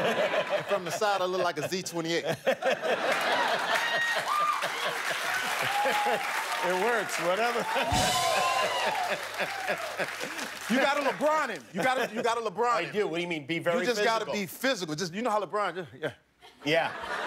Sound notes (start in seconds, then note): 4.1 laughter; 6.0 cheers and applause; 8.8 rim shot